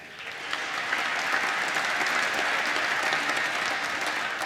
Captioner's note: applause